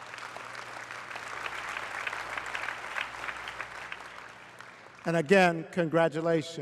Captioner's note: applause